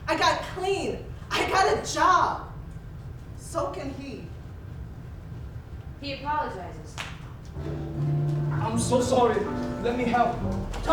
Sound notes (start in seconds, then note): 7.0 snap